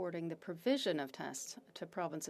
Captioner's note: speaking French